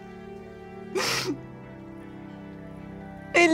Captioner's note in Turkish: Merve ağlıyor